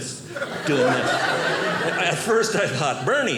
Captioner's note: audience laughing